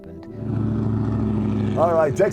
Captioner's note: engine rumbling